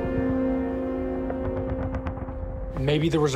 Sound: distant guns firing

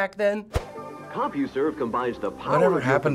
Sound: voice-over

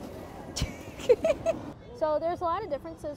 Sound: laughs

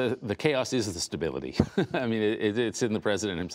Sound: laughter

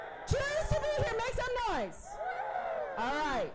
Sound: cheering

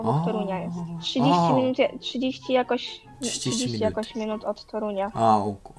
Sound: Polish

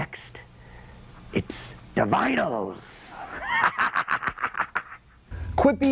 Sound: laughter

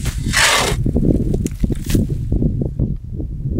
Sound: shovel scraping; wind blowing

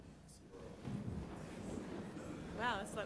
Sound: laughs

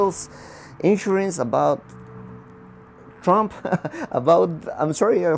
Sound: laughing

